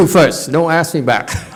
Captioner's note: audience laughs